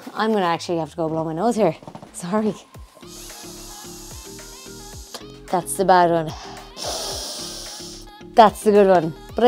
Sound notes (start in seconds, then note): 3.7 breathes in